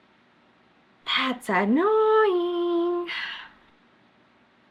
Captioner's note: exhales loudly